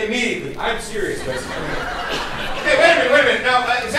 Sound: audience laughs

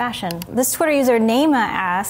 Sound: mouse clicking

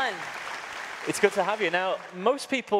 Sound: audience applauds

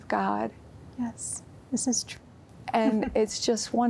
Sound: giggle

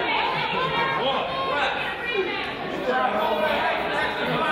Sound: coach yells

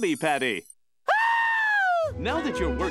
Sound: screaming

